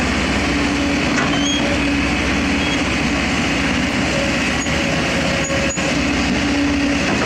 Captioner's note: engine Rev